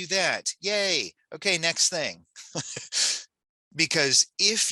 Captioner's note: laughs